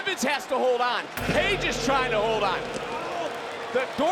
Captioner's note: crowd cheers; ominous chime rings